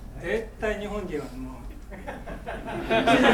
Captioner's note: speaking in foreign language; laughing